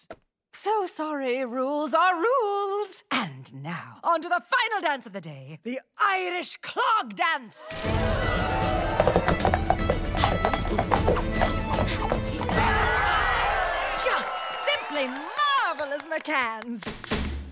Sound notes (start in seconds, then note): 7.9 irish dance music playing; 12.6 crowd cheers